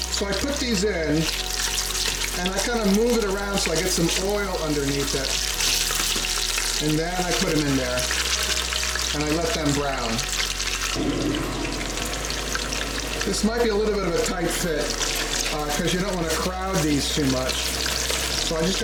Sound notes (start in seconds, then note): 11.6 oil spatters